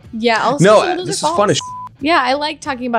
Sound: beep

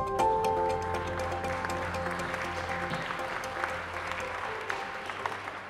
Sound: audience applauding

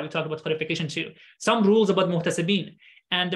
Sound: speaking arabic

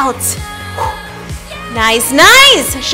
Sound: exhales

